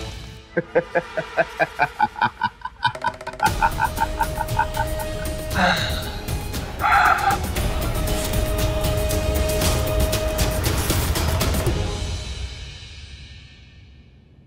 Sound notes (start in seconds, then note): 0.6 laughing; 4.3 sighs